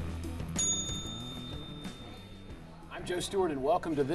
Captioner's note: bell dings